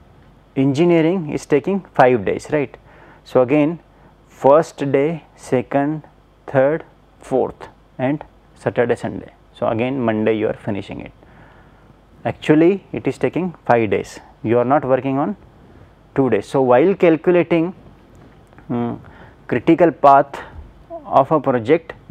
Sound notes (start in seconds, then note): 8.7 hvac